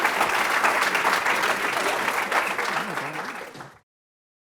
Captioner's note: applause